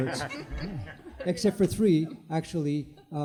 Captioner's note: group laughter